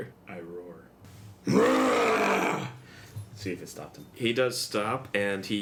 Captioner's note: growls